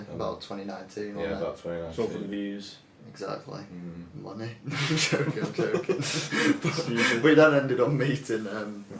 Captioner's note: laughing